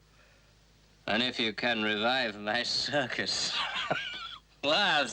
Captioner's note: laughs